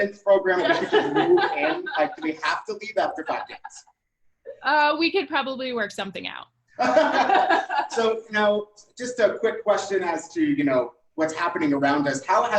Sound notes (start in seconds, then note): 6.8 laughing